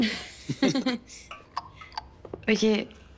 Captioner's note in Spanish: Risas